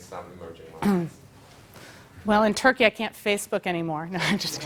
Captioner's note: cough; laugh